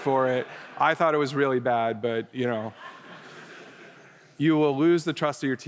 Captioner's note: laughter